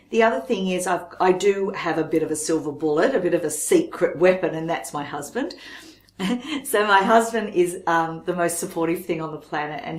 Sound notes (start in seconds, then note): 6.1 laughs